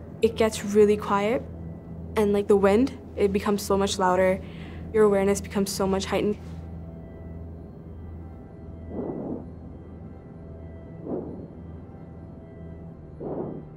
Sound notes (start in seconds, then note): 8.9 breathing into mic